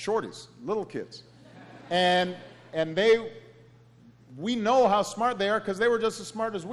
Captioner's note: laughter